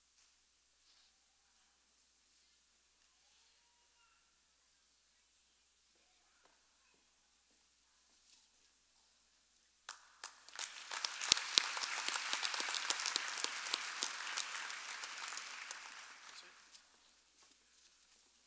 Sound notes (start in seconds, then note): 9.9 audience applauding